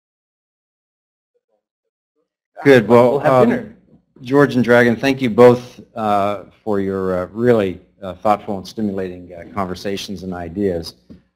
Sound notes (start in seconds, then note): 2.9 voiceover